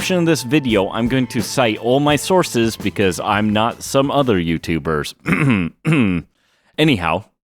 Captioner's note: clears throat